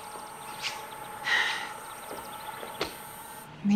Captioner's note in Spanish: Suspiros